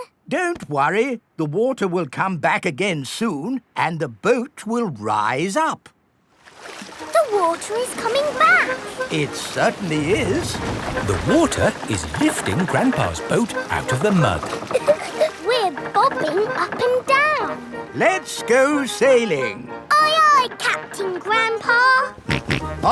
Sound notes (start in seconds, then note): 14.3 chuckles; 22.2 snorts